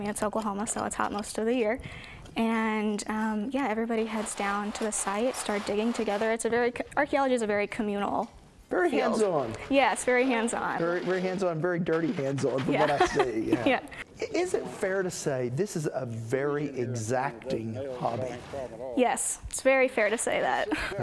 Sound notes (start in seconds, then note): 12.6 laugh